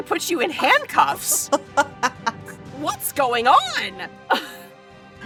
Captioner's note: chuckles